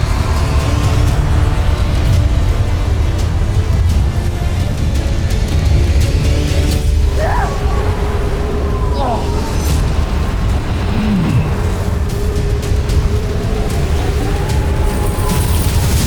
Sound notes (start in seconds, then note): 0.2 music swells; 6.4 powerful whoosh-crackle; 7.0 grunting & growling; 9.6 powerful whoosh-crackle; 9.9 tense music playing